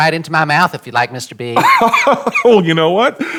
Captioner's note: laughing